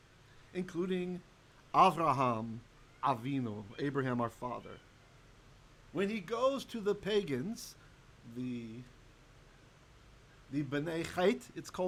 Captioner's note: Hebrew